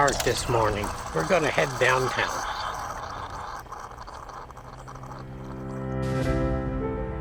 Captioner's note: coffee Brewing